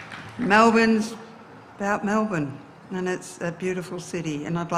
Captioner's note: applause